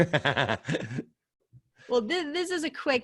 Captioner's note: laughing